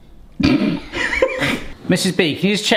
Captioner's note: laughing